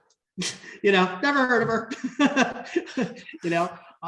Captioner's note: laughs